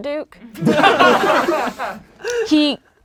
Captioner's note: laughing